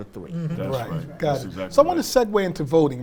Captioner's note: mumbles in agreement